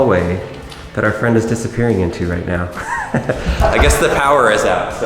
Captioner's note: laughs